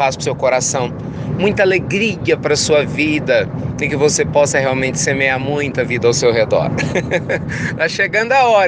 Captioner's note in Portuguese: risos